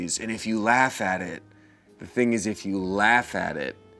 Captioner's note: none